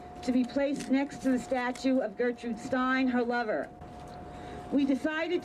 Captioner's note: none